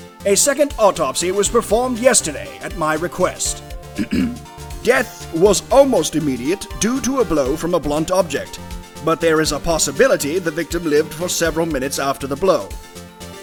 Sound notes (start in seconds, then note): 3.9 ahem